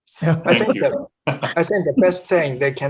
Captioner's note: laughing